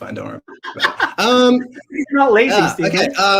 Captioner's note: laughs